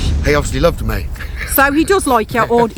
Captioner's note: laughs